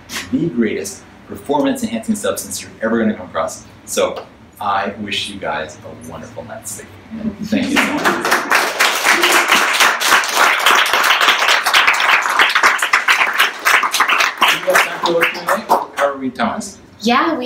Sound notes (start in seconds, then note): 7.6 audience applauds